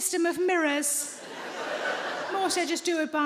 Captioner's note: audience laughing